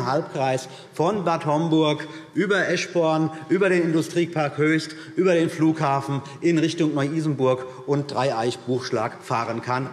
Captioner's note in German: none